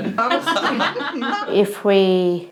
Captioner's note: laughter